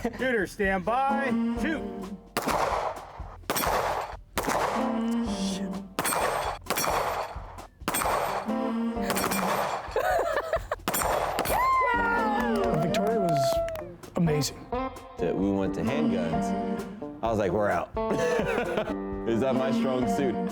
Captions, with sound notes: - Shooters, stand by: shoot! (gun firing) - Shit. (gun firing) (laughing) - Victoria was amazing. - We went to handguns. I was like, we're out. It's not my strong suit.